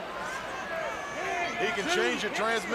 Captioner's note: crowd chatter